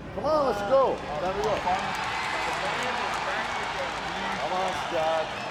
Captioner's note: audience cheering